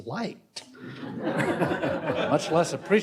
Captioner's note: audience laughs